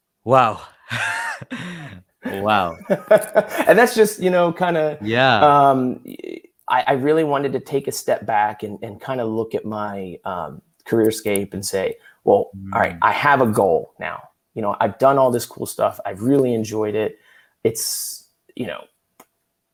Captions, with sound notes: - Wow, wow. (laughing) - And that's just, you know, kind of, I really wanted to take a step back and kind of look at my career scape and say, well, all right, I have a goal now, you know, I've done all this cool stuff. I really enjoyed it. It's, you know, awesome.